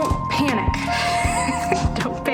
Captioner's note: laughs